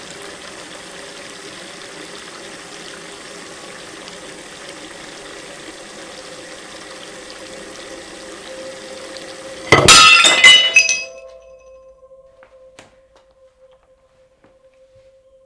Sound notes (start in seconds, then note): 7.5 dramatic orchestral music; 9.6 plate smashing